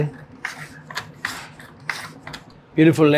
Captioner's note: potato scraping